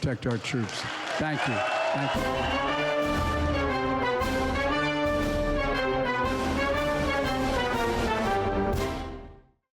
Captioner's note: applause